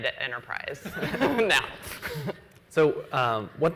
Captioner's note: laughs